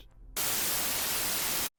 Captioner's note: high-pitched static